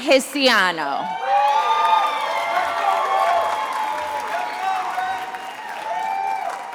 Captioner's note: attendees applauding and cheering